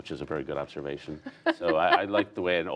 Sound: laughter

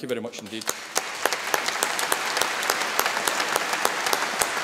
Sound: all applauding

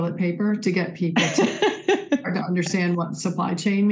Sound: laughs

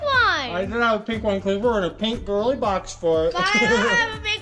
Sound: laughs

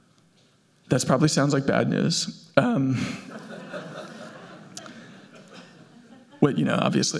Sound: laughs

